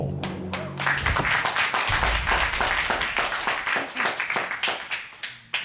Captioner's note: audience applauding